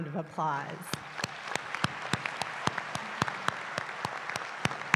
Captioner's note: applause